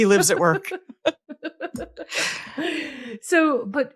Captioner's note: laughing